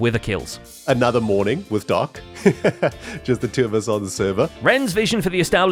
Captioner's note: laughs